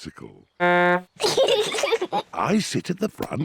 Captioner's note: toots horn; both giggle